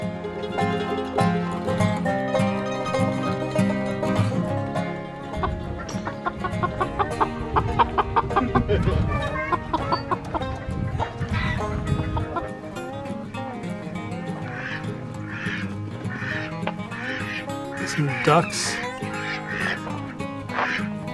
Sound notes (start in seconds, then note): 4.9 chicken clucking